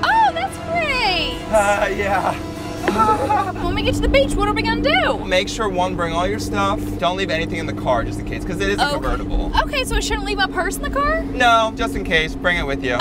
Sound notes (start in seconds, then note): 0.9 suspenseful music; 2.7 nervous laughter